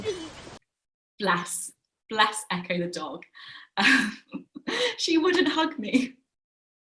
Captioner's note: laughs